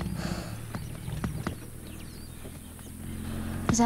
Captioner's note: Vehicle Approaching, Faint